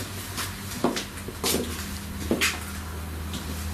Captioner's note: footsteps